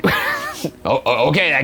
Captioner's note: giggles